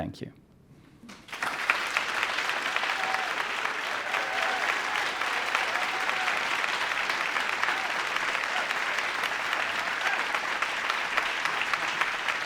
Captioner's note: applause